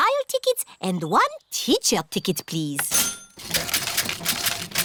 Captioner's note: cash register dings